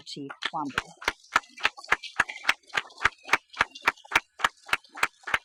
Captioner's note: audience applauding